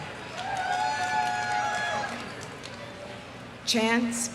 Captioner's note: audience applauding; audience cheering